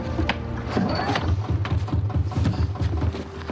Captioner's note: engine starting